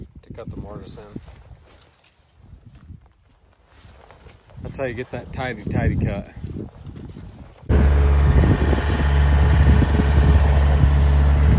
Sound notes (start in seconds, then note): 7.7 machine humming